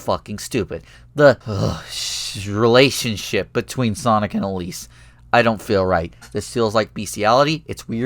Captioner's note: shiver